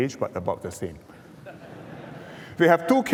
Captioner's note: laughter